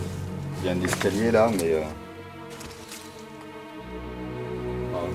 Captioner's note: speaks French